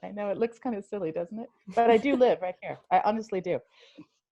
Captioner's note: laughter